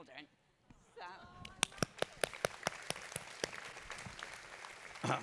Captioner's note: applause